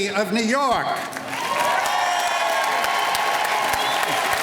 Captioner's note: applause